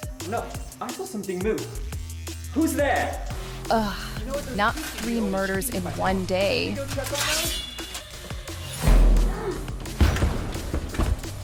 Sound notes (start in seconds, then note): 6.9 sword swishes; 8.5 upbeat music